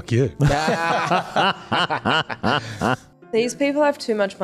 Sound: group laughing

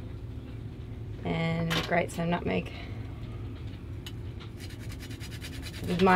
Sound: nutmeg grating

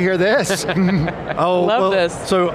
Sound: laughing

